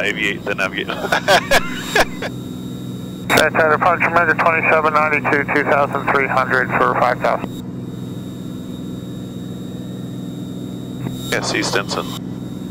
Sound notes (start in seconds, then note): 0.8 laughter